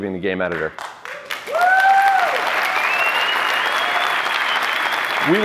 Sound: cheering

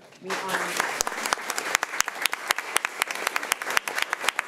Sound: crowd clapping

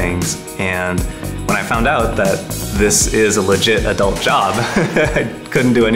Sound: laughs

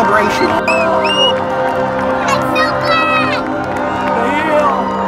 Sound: all yelling

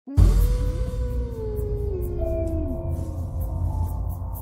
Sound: creepy howling

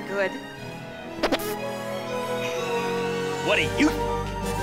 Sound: armpit fart noise

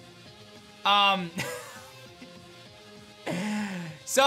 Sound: laughs

